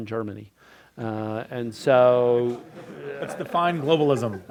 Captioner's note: crowd laughs